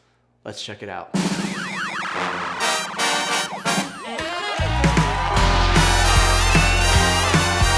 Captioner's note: bright band music; crowd cheers